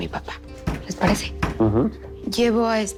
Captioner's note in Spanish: Toques en la puerta